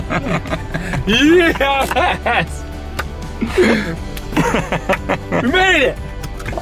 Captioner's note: laughs; hands clap